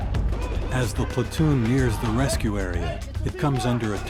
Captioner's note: voiceover